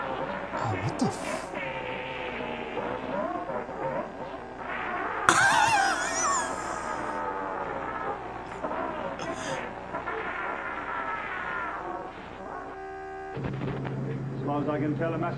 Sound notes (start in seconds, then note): 4.9 hijacker wails; 4.9 wheezes